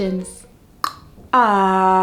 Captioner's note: tongue click